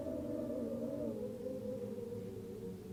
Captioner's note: wind howls